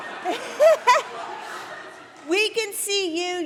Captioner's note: laughter